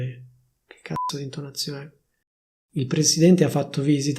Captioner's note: beep